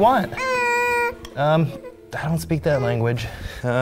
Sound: whimpers

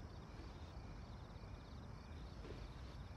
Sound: none

